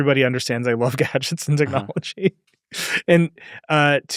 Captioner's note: chuckles